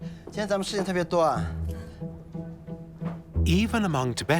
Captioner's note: in Tibetan